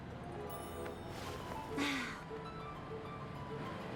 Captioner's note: sigh